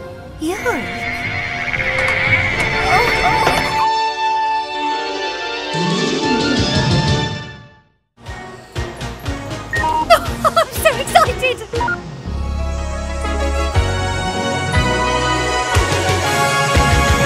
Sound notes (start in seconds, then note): 3.8 electronic music; 9.7 beeping